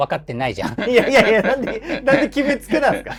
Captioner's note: laughing